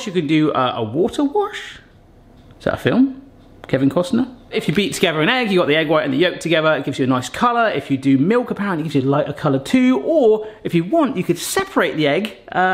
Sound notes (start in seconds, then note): none